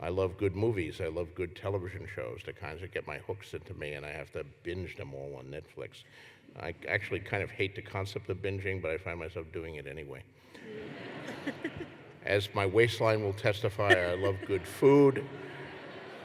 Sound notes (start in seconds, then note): 10.6 laughter